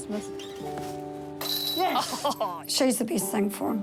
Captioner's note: chain rattles; chuckles